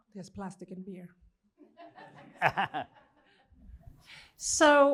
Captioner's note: laughter